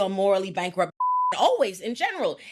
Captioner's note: beep